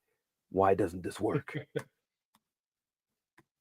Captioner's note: chuckles